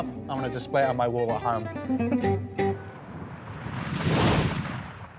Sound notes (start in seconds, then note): 2.9 logo whooshing; 3.6 upbeat music